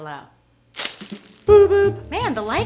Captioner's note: ripping sound